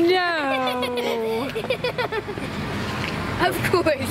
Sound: children laughing

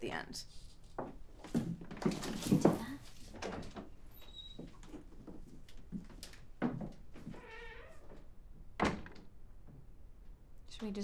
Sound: door closes

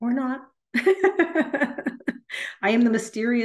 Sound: laughs

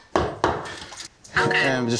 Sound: hammering

